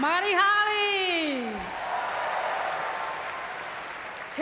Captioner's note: audience cheering